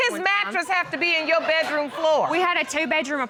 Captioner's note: audience laughing